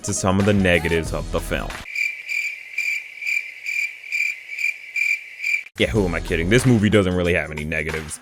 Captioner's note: Clip of spongebob audience and crickets sound effects